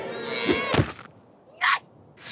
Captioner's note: splat; Isabelle grunts and swats